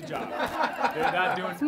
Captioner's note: audience laughs